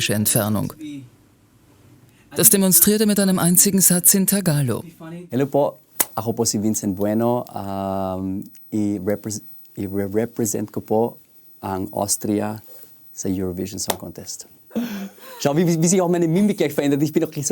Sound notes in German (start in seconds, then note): 4.3 Tagalog